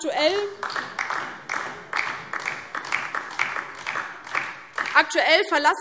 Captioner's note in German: Beifall DIE LINKE